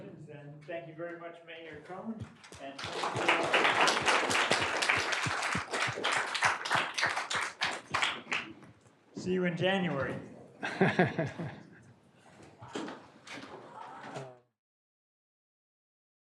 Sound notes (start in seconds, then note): 2.2 people clapping